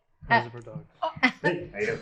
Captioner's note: laughter